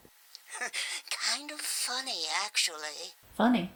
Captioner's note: laughs